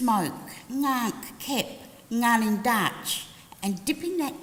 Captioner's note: language spoken